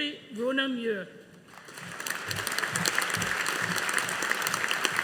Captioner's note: audience applauding